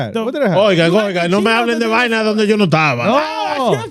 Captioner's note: speaking In Foreign Language